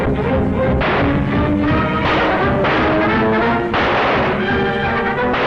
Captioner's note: gunshots